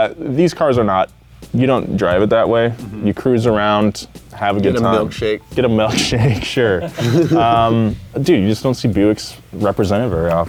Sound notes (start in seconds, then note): 5.8 chuckles